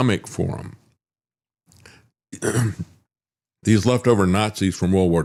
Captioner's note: clears Throat